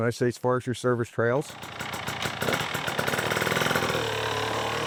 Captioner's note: dirtbike engine